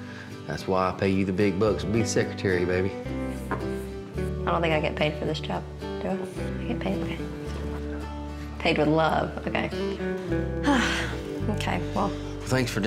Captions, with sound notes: THAT'S WHY I PAY YOU THE BIG BUCKS TO BE SECRETARY, BABY. I DON'T THINK I GET PAID FOR THIS JOB. DO I? DO I GET PAID? [WHISPERS] LOVE. PAID WITH LOVE, OKAY. [SIGHS] OKAY, WELL.